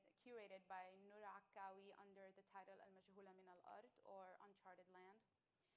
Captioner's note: speaking arabic